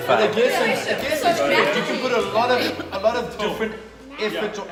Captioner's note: crowd chatter